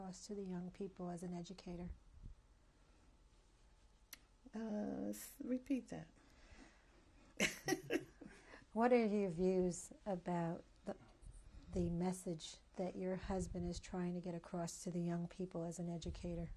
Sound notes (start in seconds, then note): 7.4 laughs